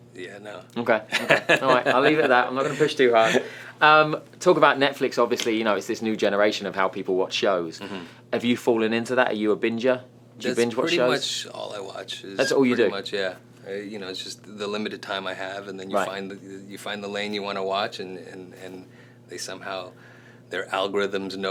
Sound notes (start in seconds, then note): 1.1 laughing